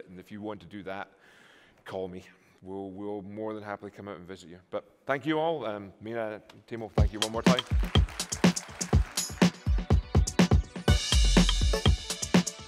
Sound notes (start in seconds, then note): 6.9 applause